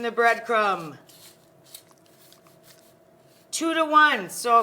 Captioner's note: crumbs crunching